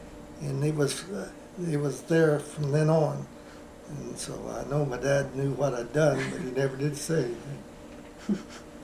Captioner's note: laughter